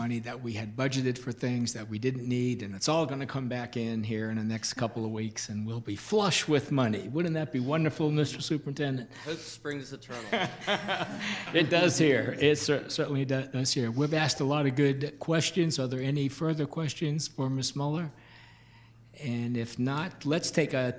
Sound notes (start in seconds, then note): 10.1 laughs